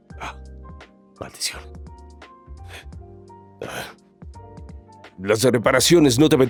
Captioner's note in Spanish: susurrando